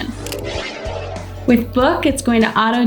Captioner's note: air whooshing